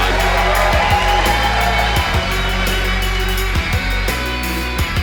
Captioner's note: audience applauding; upbeat music